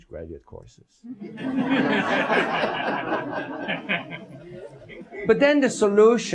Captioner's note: laughing